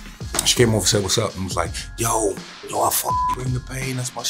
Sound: beeps

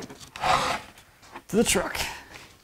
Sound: wood scraping

